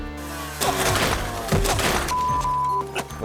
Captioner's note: dirt bike thuds; beep